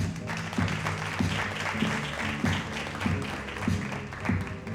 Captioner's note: audience applauding